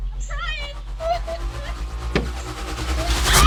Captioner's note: screaming